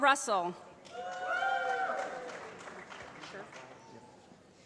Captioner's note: applause